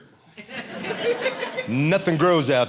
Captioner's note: audience laughing